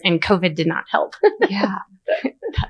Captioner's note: laughs